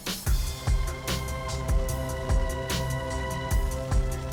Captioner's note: rain pattering